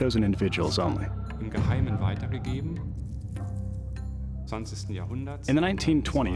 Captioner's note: non-english speech